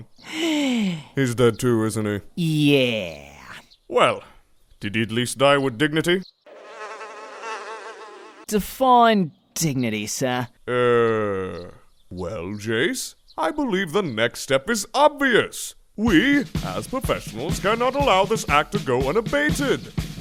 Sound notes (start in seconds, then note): 0.2 breathes tellingly; 6.4 flies buzzing